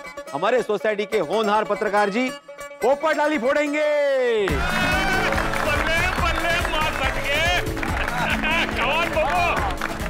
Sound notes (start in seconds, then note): 4.4 cheering and applauding